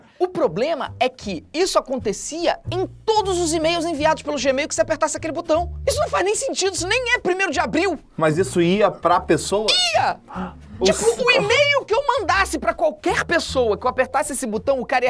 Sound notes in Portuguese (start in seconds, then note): 9.5 faz som de surpresa